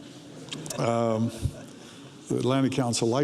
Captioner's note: audience laughs